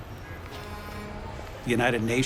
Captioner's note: horn honking